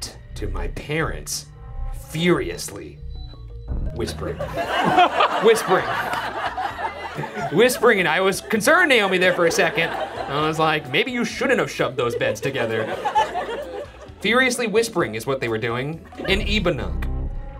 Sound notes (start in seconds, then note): 4.7 audience laughing